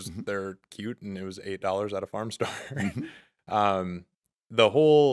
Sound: chuckling

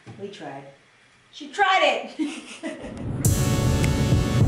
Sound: laughing

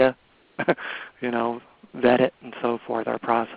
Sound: laughs

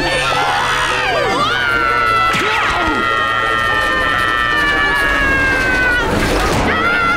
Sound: screaming

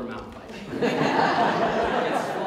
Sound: audience Laughs

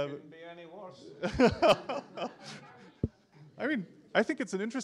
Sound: laugher

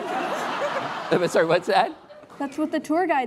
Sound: laughing

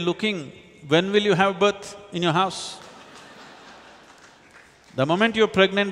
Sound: laughter

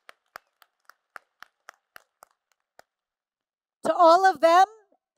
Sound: applause

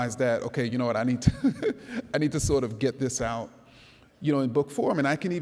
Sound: laughs

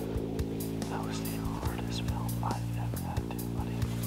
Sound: whispering

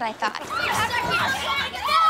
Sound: arguing

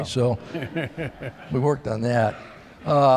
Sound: laughter

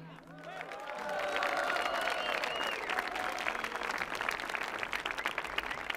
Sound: audience clapping; audience cheering

